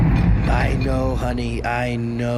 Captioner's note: the beast roars again